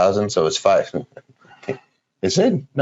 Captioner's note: laughing